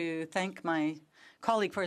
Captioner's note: speaking French